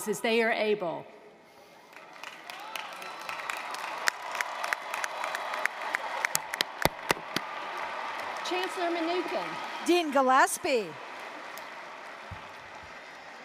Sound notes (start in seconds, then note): 1.8 applause, cheering; 11.3 applause